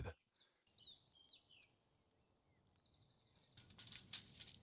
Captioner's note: birds chirping